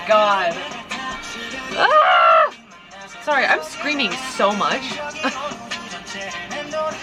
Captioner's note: screams